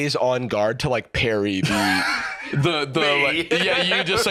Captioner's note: laughing